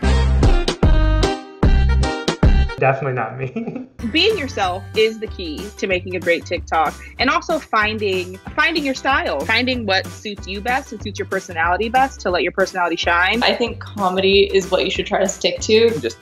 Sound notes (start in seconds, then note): 0.0 upbeat music; 2.9 laughs